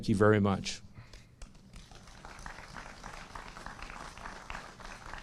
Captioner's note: applause